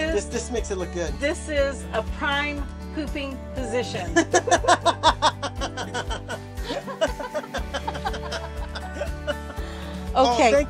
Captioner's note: laughter